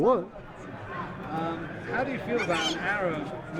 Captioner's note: voiceover